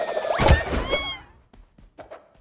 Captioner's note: wails, screams